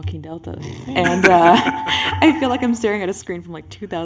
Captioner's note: laughter